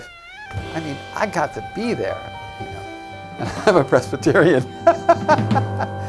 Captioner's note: laughs